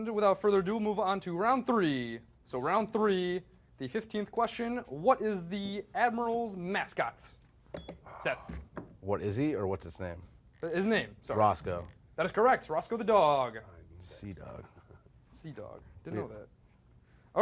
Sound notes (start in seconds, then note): 7.7 beep